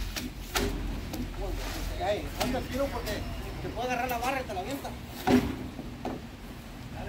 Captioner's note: Spanish